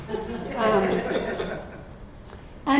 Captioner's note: audience laughs